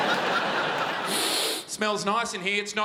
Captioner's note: sniffs